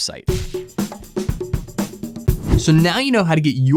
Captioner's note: percussive music; screen whooshing